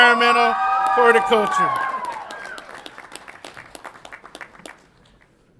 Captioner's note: audience applauds and cheers